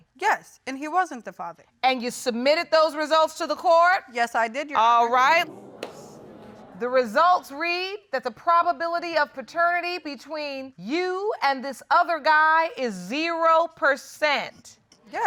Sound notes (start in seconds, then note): 5.4 audience murmuring